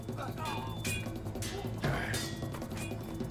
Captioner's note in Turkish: İnilti sesi